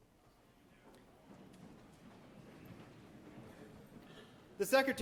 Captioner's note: people jostling